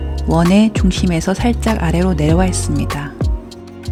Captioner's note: voiceover